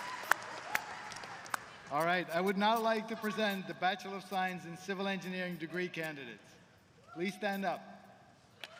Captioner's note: applause